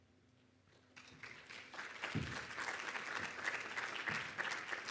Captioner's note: audience applauding